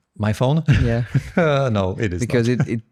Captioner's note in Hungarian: nevetés